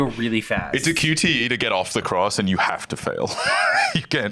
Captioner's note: laughs